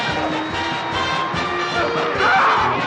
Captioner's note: crowd cheering